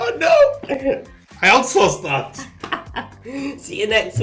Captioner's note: laughing